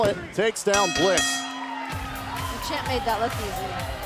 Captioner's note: bell ringing